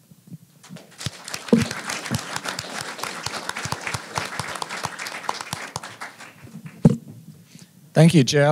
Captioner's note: applause